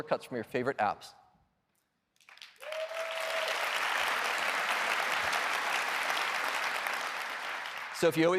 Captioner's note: applause